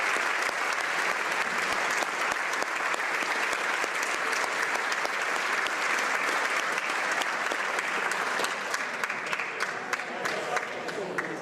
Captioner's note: applause